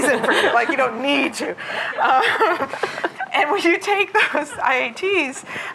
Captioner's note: laughter